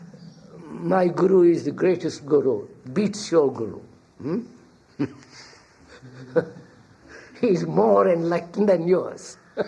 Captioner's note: laughs